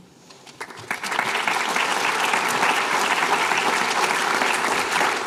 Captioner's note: applause